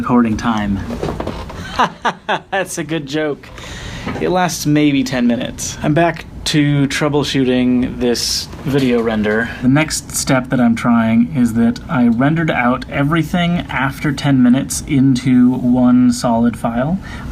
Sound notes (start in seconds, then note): 1.7 mockingly